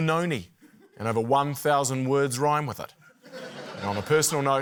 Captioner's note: laughter